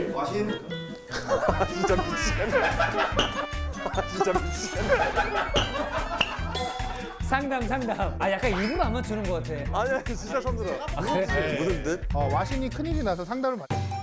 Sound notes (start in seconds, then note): 1.0 ahaha